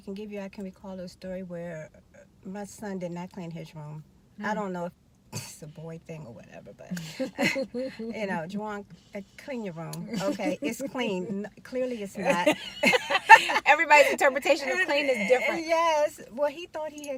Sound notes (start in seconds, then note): 12.2 laughing